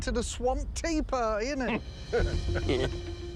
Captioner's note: chuckles